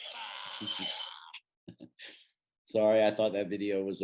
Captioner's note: chuckles